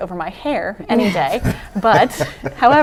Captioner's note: laughs